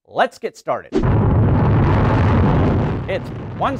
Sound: rocket Rumble

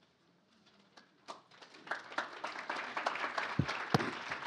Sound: applause

